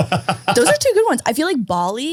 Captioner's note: all laughing